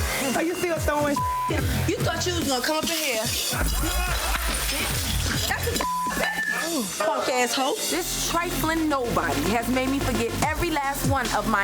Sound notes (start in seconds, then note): 1.0 beep; 3.5 glass shattering; 4.0 overlapping chattering